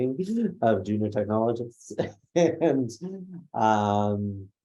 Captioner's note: laughs; laughs